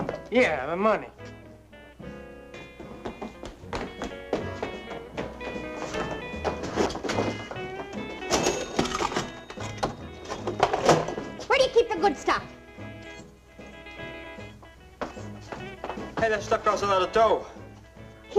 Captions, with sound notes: - Yeah, the money. (cash register ringing) - Where do you keep the good stuff? - Hey, that stuff costs a lot of dough.